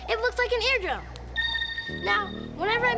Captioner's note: dings